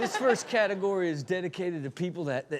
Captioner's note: Chanel chuckles; audience laughs